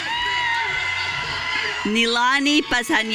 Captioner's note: audience cheering